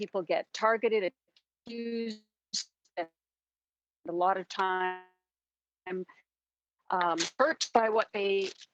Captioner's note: audio cuts out